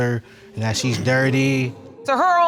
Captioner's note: audience murmuring